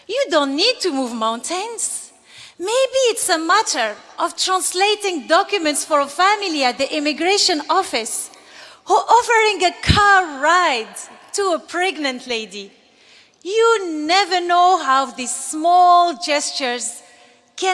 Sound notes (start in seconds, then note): none